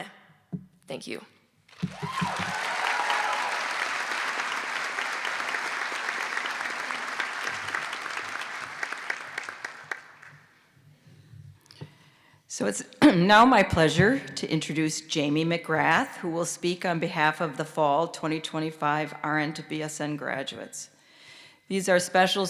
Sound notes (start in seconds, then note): 5.9 applause